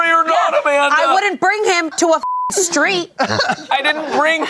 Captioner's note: beep